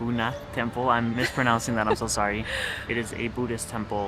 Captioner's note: giggles